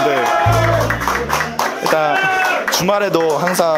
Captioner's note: the sound of welcoming